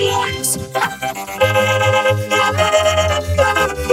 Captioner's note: cackling maniacally